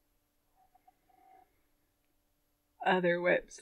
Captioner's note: chair creaking